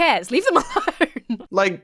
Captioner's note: laughs